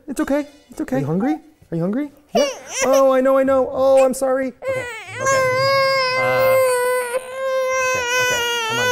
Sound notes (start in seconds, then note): 4.6 cries